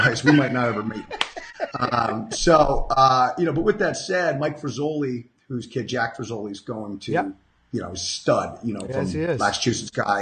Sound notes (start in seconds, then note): 1.8 laughing